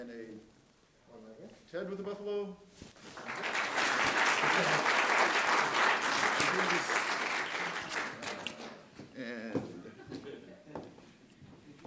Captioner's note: applause